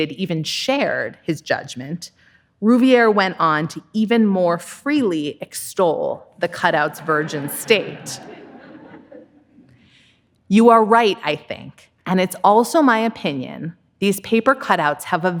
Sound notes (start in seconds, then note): 6.8 audience laughing